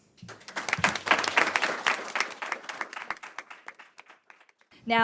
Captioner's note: audience clapping